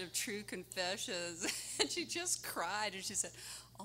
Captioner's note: laughing